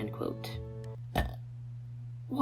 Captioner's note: burp 2